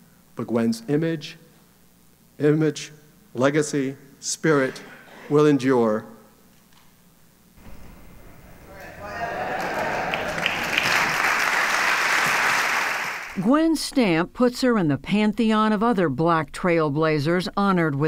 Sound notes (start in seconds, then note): 8.9 applause